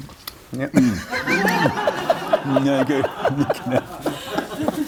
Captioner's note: laughs